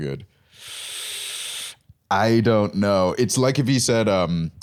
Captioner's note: inhales